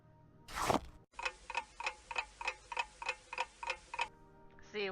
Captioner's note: ticking clock